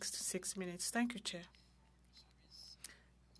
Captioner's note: speaking French